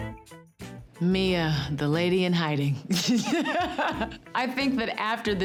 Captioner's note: upbeat music; laughs